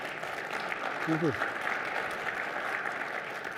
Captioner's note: applause